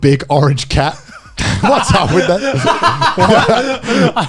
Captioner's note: laughs